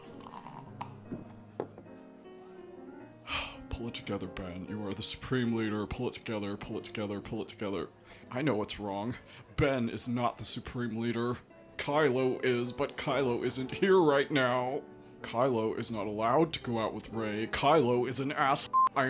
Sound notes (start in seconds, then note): 3.3 sighs